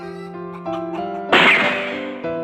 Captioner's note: bang!